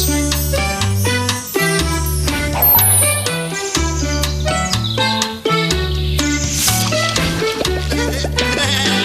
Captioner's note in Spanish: sonidos mágicos y de ambiente; risas de Bob Esponja